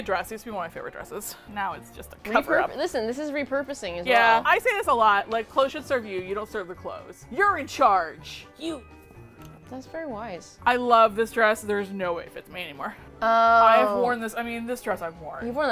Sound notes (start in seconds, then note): 7.7 passionately; 9.4 pensively